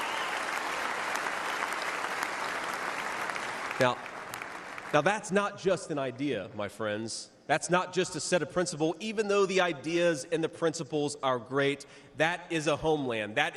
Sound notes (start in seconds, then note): 3.0 cheers and applause